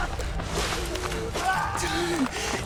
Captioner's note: screaming; panting